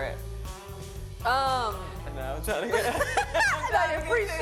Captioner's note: laughter